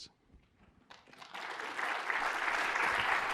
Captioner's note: applause